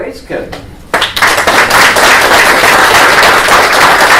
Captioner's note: applause